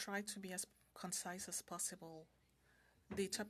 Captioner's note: speaking French